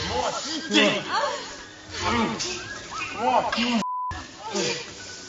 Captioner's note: grunting